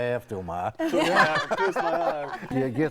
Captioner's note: laughing